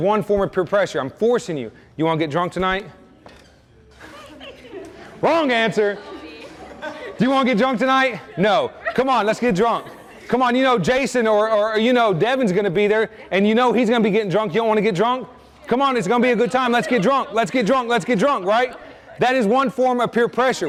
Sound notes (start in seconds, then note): 3.8 students giggle; 5.9 students laugh